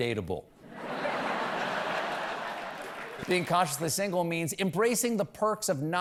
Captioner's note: laughter